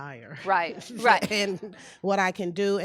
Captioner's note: people laughing